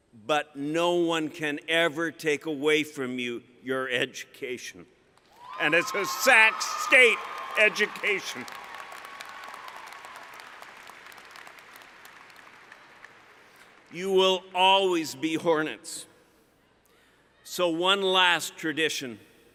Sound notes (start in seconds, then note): 8.4 cheering